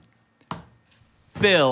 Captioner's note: hand tapping